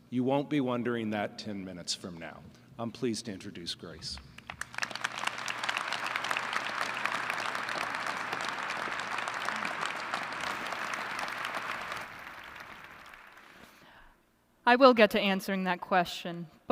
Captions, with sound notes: You won't be wondering that 10 minutes from now. I'm pleased to introduce Grace. [ Applause ] >> I will get to answering that question.